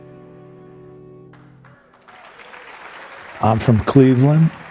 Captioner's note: audience applauding